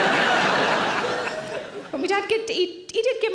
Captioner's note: audience laughter